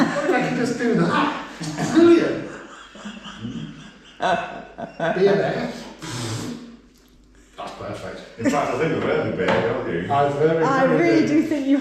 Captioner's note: slurp